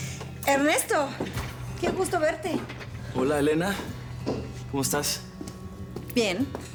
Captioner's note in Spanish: exhala